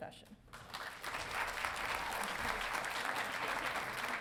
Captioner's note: audience applauding